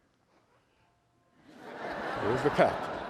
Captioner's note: laughter